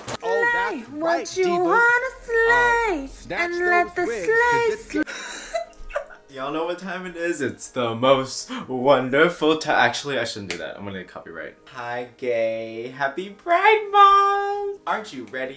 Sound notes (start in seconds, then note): 3.6 giggles